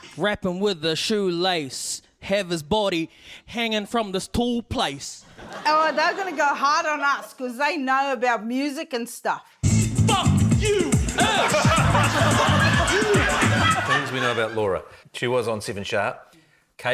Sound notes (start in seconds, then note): 9.6 funky hip-hop beat plays; 11.2 laughter